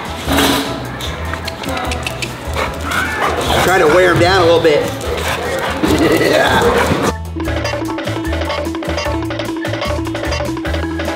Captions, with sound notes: Try to wear him down a little bit. (laughs)